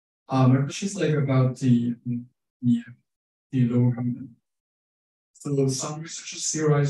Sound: speaking faintly

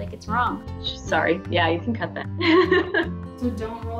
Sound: laughs

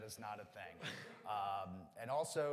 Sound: audience laughs

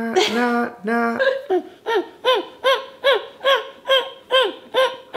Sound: humming

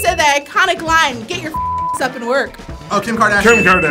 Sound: beeps

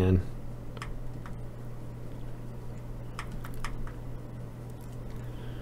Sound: typing

